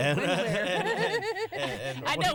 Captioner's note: laughter